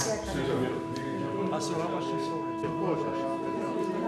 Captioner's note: talking in Albanian